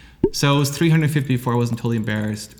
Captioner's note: pop